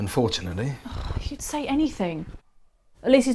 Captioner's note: scoffs